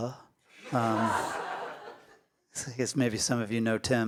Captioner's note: audience laughs